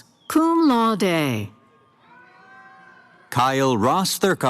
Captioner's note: cheering